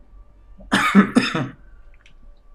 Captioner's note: chuckles; coughs